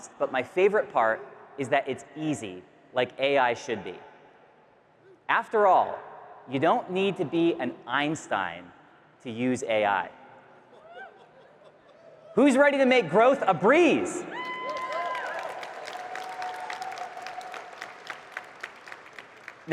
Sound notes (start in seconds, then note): 10.6 attendees cheering; 10.7 attendee laughing; 14.3 audience cheering and clapping